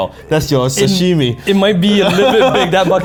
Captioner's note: laughing